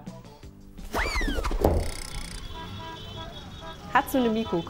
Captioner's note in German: Straßenlärm, Hupen